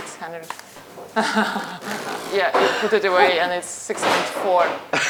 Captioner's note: chuckles